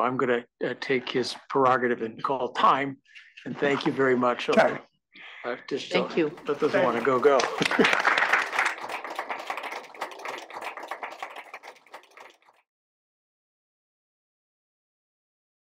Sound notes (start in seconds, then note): 6.4 laugh; 11.0 applause